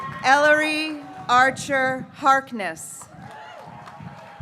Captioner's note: graduates cheering